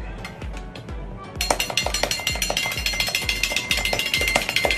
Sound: rapid clanging

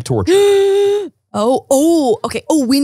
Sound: gasps

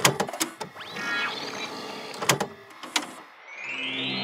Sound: VHS clicking

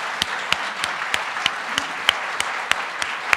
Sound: applause

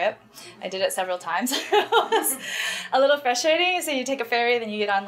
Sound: laughs

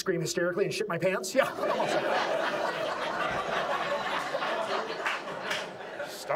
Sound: audience laughs

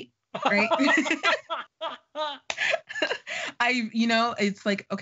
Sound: laughing

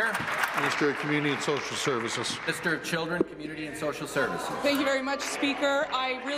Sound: applause

